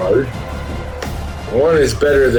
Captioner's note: crowd Noises